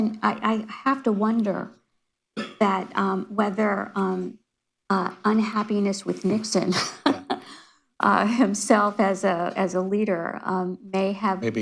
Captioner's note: laughs